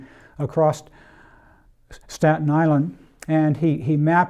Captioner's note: breathes deeply